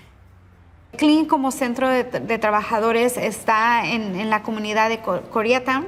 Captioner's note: speaking in Spanish